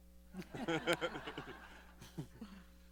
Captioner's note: laughter